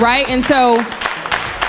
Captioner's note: crowd applauds